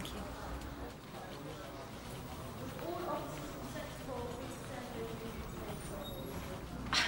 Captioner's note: background station workers bustling